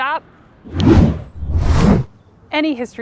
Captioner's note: fingers snapping